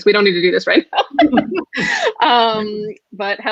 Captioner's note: laughs